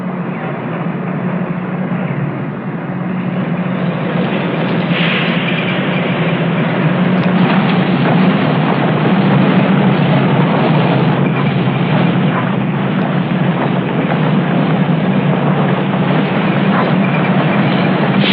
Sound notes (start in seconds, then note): 4.2 sounds of engine and tracks moving on ground